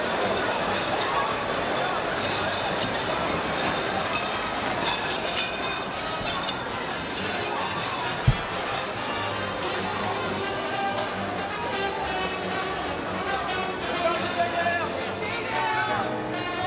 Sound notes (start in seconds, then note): 1.6 gunfire; 7.1 dishes breaking